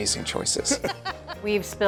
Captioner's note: laughs